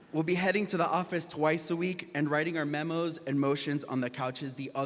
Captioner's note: none